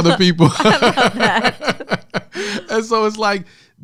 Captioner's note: laughs